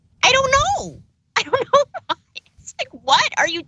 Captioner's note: laugh